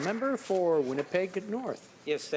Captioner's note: some applause